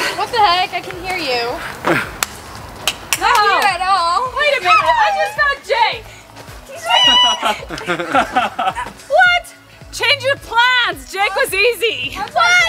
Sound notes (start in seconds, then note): 2.8 clapping; 7.0 laughter